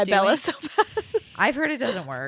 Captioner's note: laughs